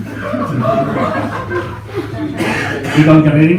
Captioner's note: laughs